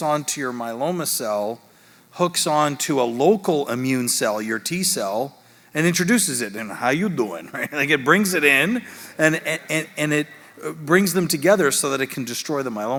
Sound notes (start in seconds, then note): 8.6 audience laughing